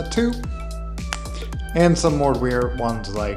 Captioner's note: fingers snapping